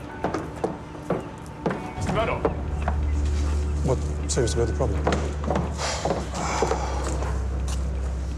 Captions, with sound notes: Mr. Murdoch! What seems to be the problem? [sighs]